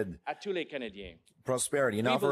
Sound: speaking french

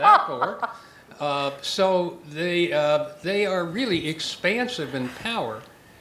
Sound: laugh

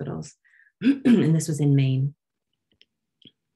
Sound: clears throat

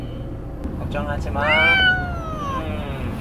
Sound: Raon cries

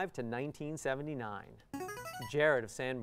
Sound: player buzzer

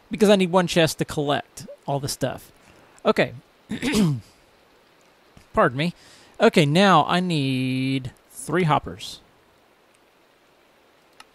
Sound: clears throat

